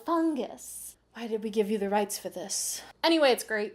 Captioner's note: producer voice